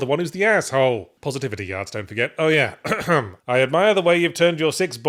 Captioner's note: cough